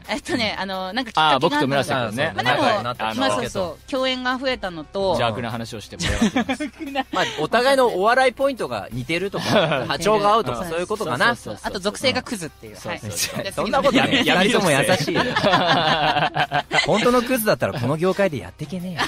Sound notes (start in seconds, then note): 15.4 laughing